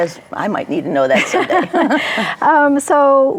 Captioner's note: laughs; chuckles